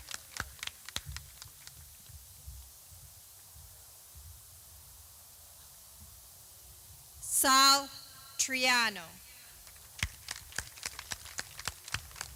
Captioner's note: clapping